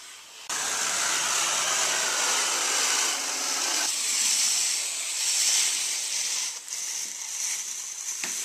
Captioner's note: sssscchhhrrrrrrrrr